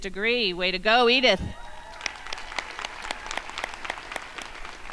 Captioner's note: crowd applauding